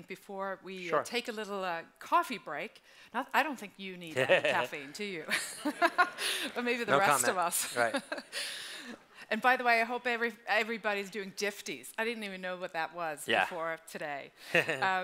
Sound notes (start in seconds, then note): 8.2 laughs